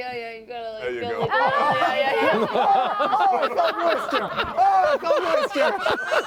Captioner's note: screams